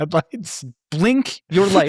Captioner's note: laughing